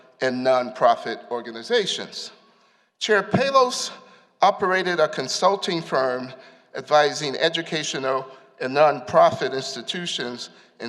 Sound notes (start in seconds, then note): none